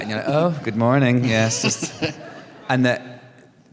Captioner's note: laughter